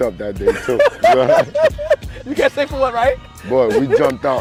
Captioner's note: laughing